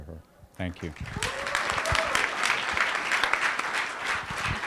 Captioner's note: cheers and applause